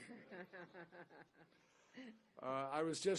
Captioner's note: laughter